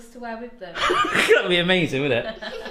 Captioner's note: laughing